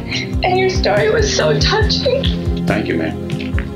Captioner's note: crying